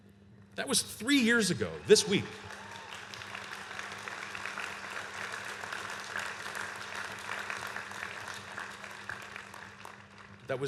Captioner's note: applause